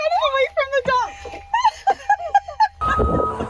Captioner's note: laughter